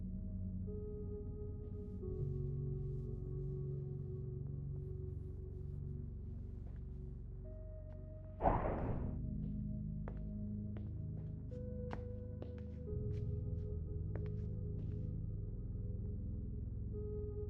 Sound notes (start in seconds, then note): 0.0 gentle melodic music; 8.4 object thudding; 9.2 gentle melodic music